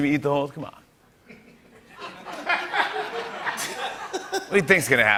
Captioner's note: laughter